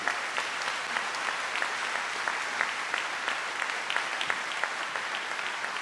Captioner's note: trustees and audience applaud